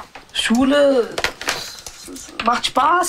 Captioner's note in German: none